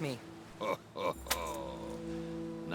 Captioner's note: laughs